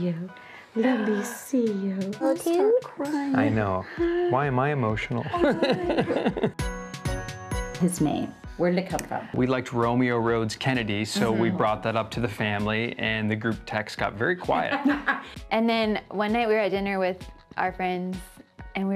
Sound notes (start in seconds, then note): 5.2 laughs; 14.5 laughs